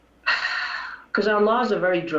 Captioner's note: sighs